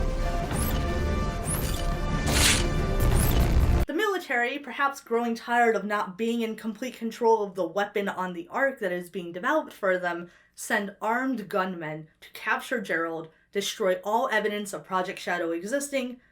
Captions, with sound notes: (paper rips) The military, perhaps growing tired of not being in complete control of the weapon on the ARK that is being developed for them, send armed gunmen to capture Gerald, destroy all evidence of Project Shadow existing,